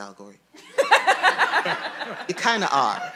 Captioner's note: audience laughing